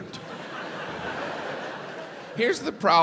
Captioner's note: crowd laughs